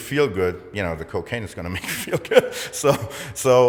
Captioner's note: chuckles